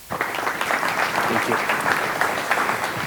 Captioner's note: audience applauds